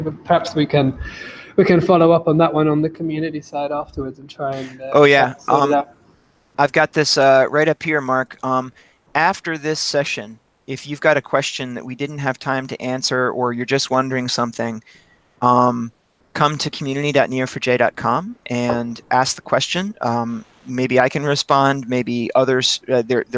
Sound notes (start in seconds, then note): 5.6 speaks faintly